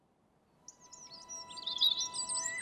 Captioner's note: garden bird song